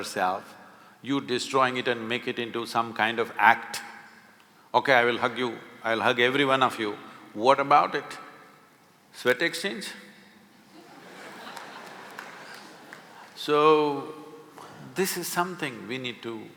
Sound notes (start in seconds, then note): 10.6 laughter